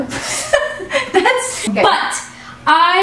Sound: laughter

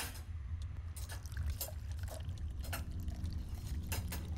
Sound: pouring water

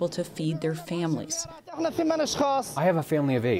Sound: through translator

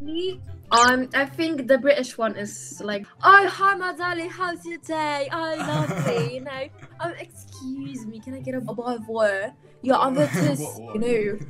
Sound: english with British accent

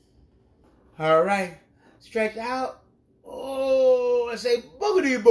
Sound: groans

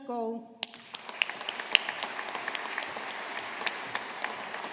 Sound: audience applauding

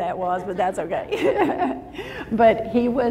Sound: laughs

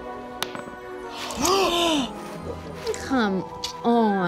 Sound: gasping

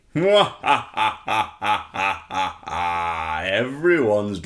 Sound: scary laughter

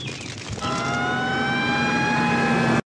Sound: fire truck sirens blaring

